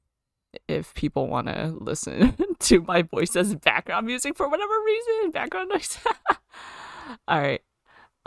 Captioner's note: laughs